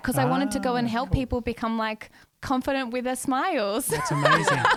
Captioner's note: laughs